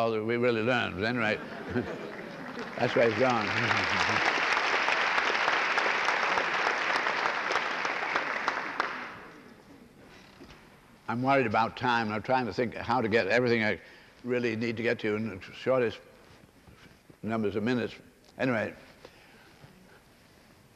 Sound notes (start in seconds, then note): 1.3 laughter; 7.5 applause